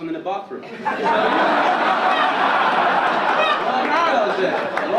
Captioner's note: audience laugh